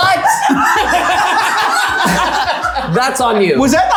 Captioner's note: people laughing